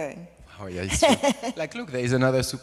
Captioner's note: laughs